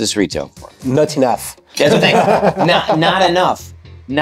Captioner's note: group laughs